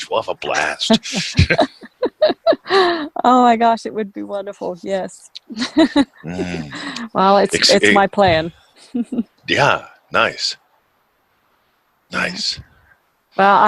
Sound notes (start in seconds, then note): 0.4 both laughing; 5.4 laughs; 8.9 chuckles